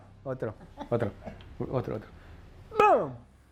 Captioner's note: speaking Spanish